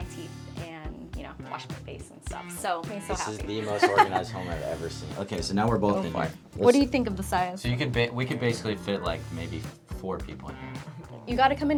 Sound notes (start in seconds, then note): 3.4 chuckling